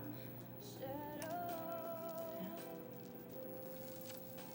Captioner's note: beads rattling